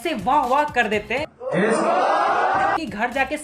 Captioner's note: cheering